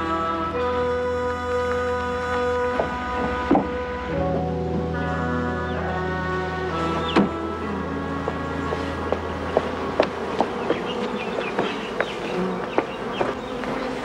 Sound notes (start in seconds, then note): 9.2 insects buzzing